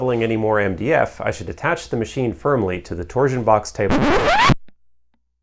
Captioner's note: record scratch